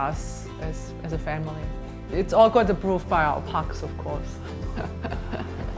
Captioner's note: laughs